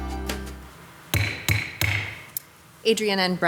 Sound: upbeat music plays; gavel bangs

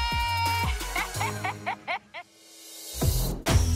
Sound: laughing

